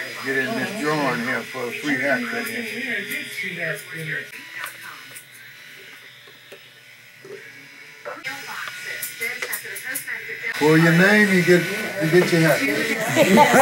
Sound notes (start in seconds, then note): 2.8 clippers buzzing; 4.1 radio voices in background; 12.7 woman laughing